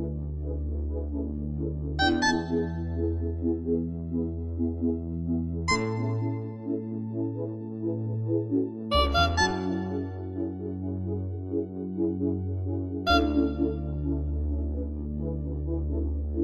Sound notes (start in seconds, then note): 2.0 honk-honk; 5.5 honk; 9.0 honk-honk-honk; 13.0 honk